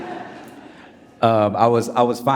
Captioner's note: audience laughing